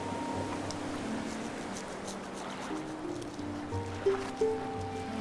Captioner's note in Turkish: Balık temizleme sesi